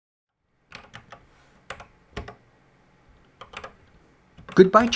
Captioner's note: typing on a C64 keyboard